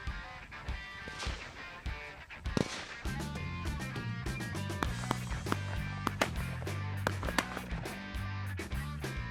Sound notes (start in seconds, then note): 1.7 loud sporadic gunfire